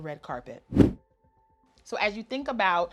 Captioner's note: air whooshes